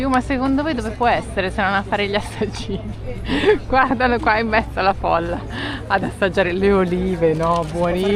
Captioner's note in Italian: risate